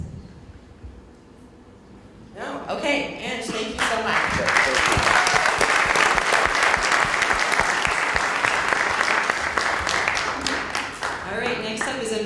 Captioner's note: applause